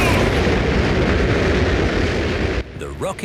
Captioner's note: rockets blasting